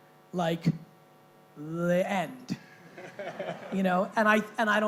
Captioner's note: laughing